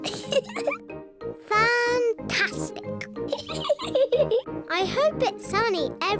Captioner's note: laughs; laughs